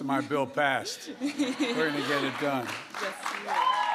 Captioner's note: laughter